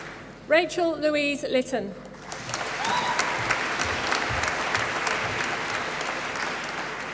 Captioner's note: applause